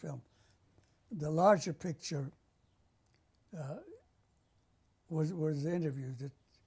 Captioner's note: pauses for 3 seconds